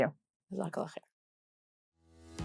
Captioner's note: speaks Arabic